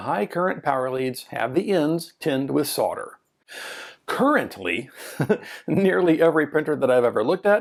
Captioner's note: ha ha